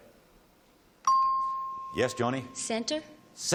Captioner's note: ping